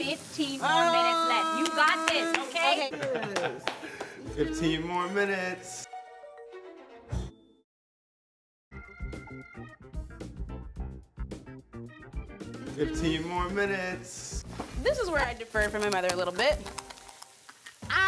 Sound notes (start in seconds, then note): 4.0 clapping and laughing; 8.8 upbeat music